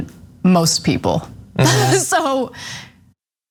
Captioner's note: laugh